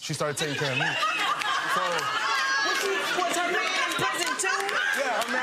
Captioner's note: audience laughing